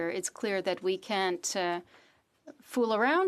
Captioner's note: speaking French